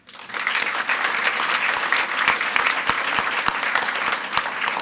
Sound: audience applauds

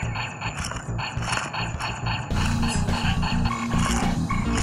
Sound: laser shots; laser shots continue; computer bleeping

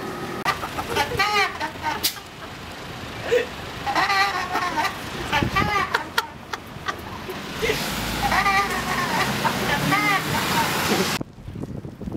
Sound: garbage truck's broken voice

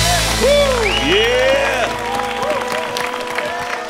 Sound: cheers and applause

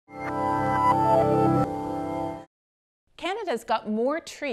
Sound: electronic tones

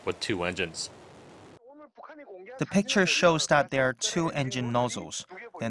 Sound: Korean

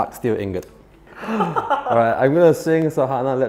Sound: player gasps; laughs

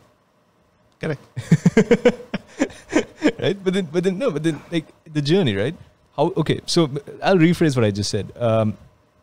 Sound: laughs

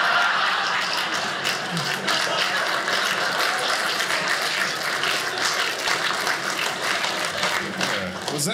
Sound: audience laughing; audience applauding

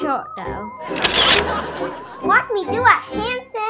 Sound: audience laughing

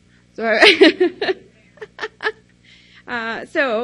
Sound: laughs

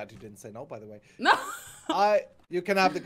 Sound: laughing

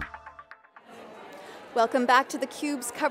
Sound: crowd

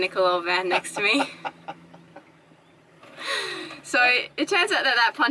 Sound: laughing

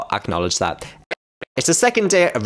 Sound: cursed Voice

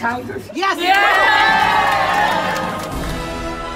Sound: cheering; heroic music

